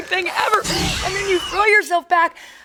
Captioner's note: dinosaur screeches